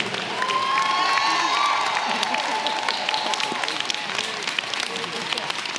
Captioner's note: audience clapping and cheering